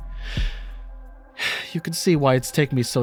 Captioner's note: sigh